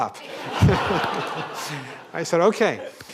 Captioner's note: laughter